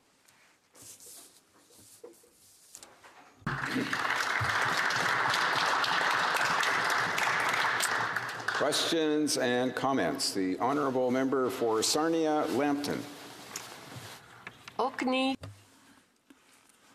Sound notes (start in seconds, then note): 8.4 some Applause